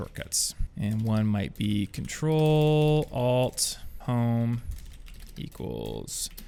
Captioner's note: typing